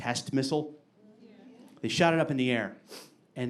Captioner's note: audience agreeing